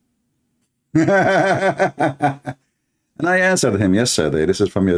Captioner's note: laughter